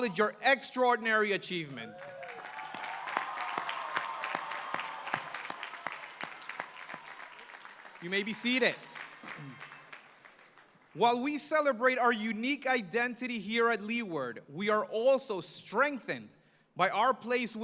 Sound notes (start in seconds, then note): 2.1 applause